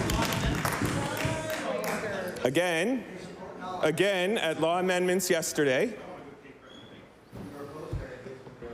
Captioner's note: applause